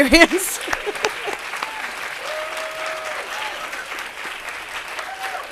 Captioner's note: audience cheering and applauding